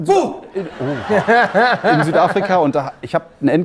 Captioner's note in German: Lachen